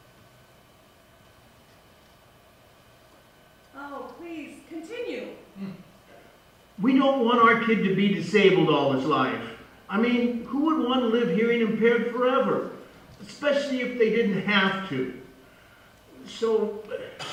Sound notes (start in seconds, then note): 6.8 voice on phone